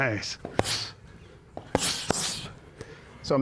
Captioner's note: claps